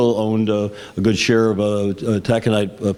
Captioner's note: none